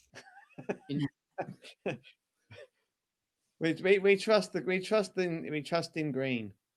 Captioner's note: laughter